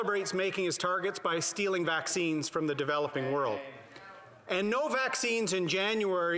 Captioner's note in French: voix de l'interprète